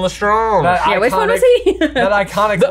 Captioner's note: chuckles